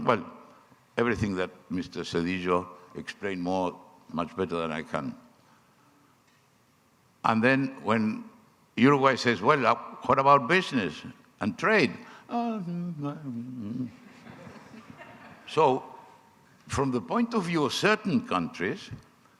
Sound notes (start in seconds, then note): 12.6 person sighing; 14.0 audience laughing